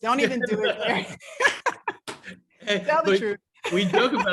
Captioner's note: laugh